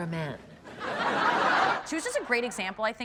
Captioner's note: audience laughing